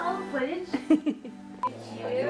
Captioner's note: laughing